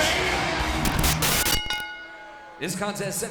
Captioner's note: screen hisses; bell rings